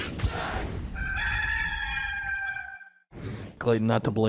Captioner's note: rooster crow